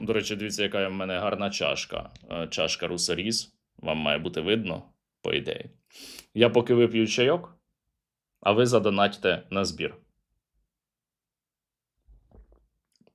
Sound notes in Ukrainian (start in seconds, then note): 5.9 сопіння